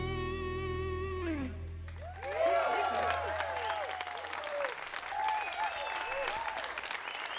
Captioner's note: crowd applause